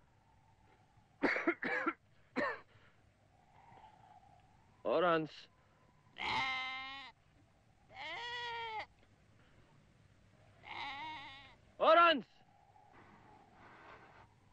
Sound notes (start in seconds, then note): 1.2 coughing